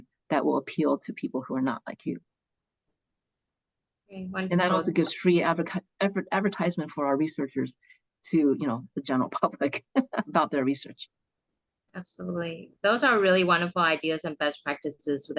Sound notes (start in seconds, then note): 9.8 chuckles